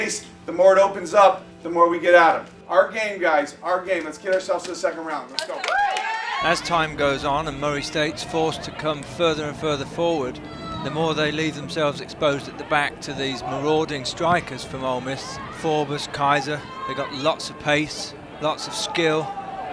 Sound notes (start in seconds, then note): 5.4 girls cheer; 7.2 voiceover